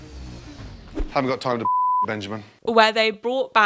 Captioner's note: beep